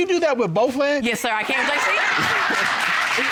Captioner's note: laughs